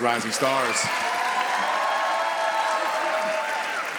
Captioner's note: audience applauds